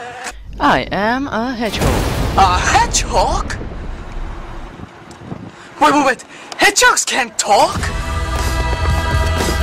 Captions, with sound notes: I am a hedgehog. *Dramatic boom sound plays* A hedgehog?! wait wait wait Hedgehogs can't talk! *Dramatic music returns*